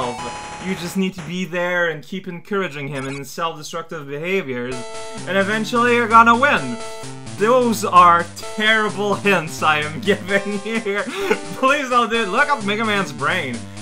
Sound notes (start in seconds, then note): 9.7 laughing